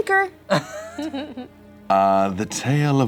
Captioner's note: laughter